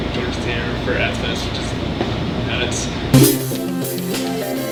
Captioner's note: static drowns out voice; rock music